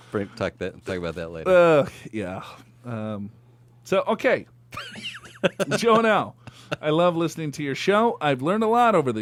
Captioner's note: laughs